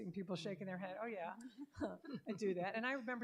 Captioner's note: laughter